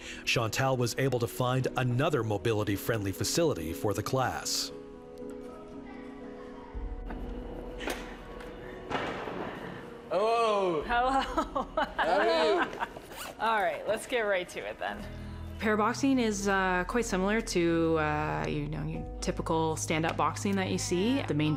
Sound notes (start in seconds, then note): 10.9 laughing